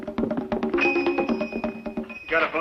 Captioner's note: bell ringing